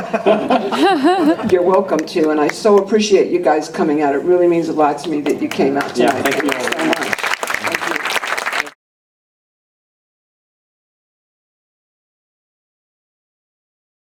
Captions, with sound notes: (laughter) You're welcome to, and I so appreciate you guys coming out. It really means a lot to me that you came out tonight. (applause)